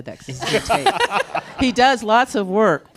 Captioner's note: panelists and audience laughing